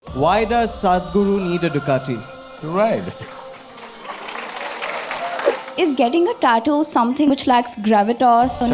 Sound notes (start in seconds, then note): 3.0 laughs; 3.1 laughter; 3.6 applause